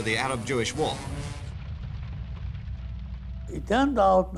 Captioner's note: fire burning